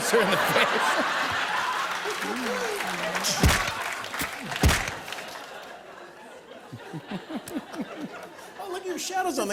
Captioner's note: laughter